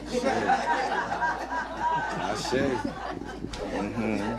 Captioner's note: audience laughing